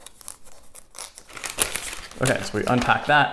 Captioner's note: paper crinkling